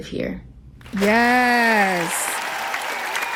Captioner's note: applause